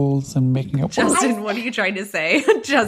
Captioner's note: bingbong